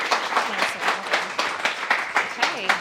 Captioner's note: clapping